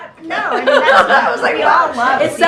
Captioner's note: laughter